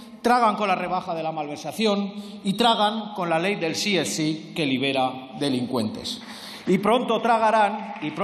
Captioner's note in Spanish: Aplausos